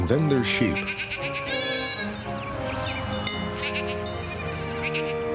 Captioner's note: sheep baa'ing